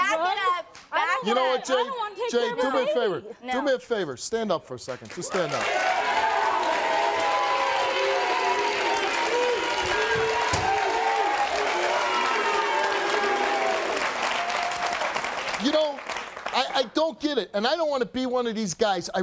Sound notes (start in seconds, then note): 5.3 audience applauding